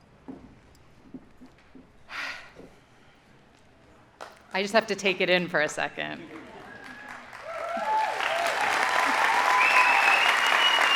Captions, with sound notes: - (sighs) I just have to take it in for a second. (audience applauding)